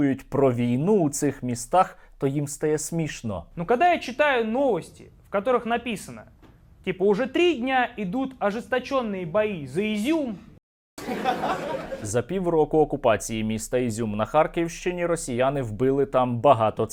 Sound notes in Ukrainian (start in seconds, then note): 11.0 сміх